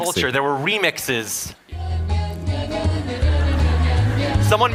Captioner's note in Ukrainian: Сміх